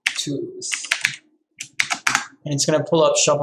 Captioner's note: keyboard clicking